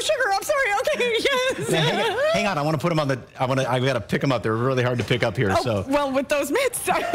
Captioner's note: laughter